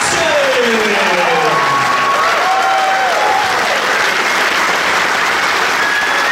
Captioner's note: audience applauding; audience cheering